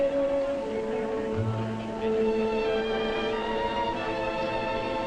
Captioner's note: people chattering